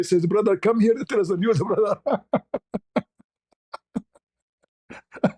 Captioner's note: ketawa